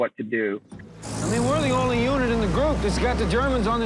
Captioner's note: vehicle engine revs